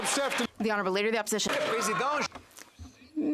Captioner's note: some Applause